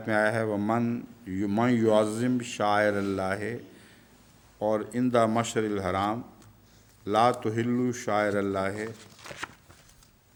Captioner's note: Arabic